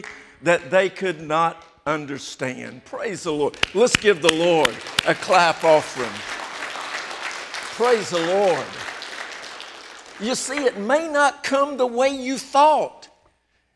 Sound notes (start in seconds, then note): 6.1 applause